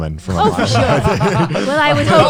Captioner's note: laughs